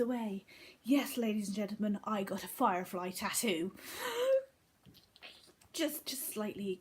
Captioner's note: gasp